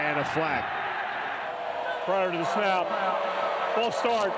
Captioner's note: crowd boos